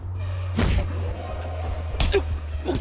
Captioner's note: thudding